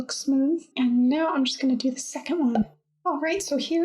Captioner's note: pop!